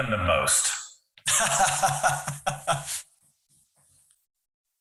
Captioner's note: laughing